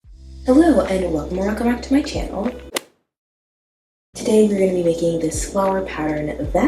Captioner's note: golf hit sound effect